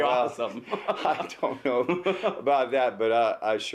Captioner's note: both laugh